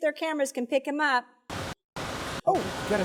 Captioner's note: static noise